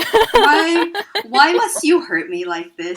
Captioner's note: laughter